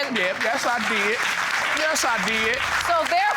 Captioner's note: audience applauding